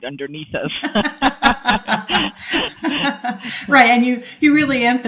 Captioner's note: laughing